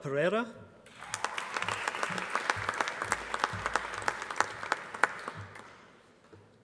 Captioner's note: applause